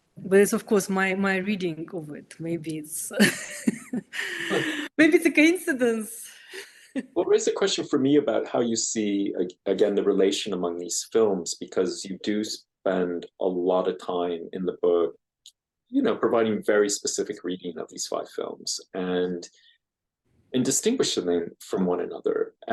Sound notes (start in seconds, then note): 3.2 laughs